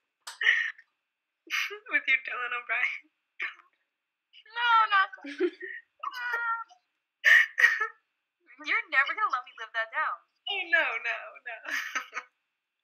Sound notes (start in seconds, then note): 5.2 laughing